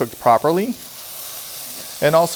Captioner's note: pan sizzling